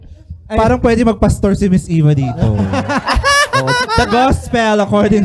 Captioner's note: laughter